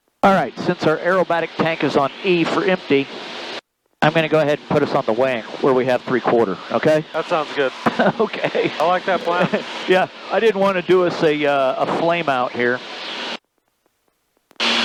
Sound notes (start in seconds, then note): 7.8 laughs